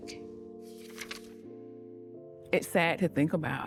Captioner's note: page rustling